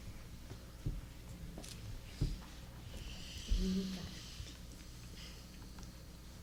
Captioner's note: clicking, fidgeting, murmuring